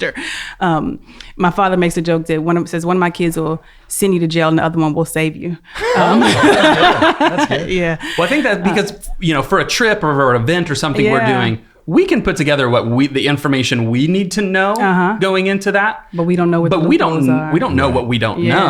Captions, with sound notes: My father makes a jokes that one of my kids will send you to jail, the other one will save you. (laughing) - For a trip or an event or something we're doing we can put together the information we need to know going into that. But we don't know what we don't know.